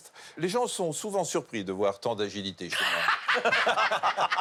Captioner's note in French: rires